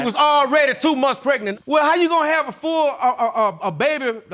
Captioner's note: stammering